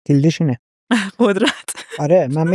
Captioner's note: laughs